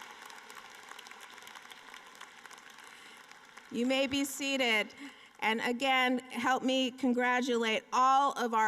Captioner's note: applause